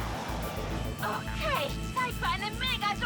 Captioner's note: engine roaring